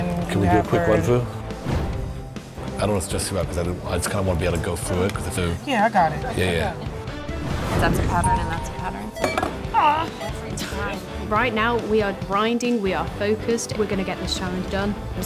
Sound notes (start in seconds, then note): 9.6 annoyed groan